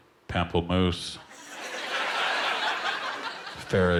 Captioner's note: laughter